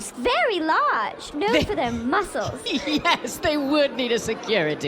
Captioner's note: still laughing